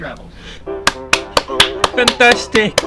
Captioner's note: clapping